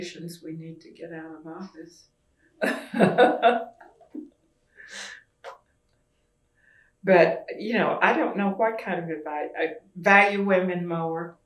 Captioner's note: laughs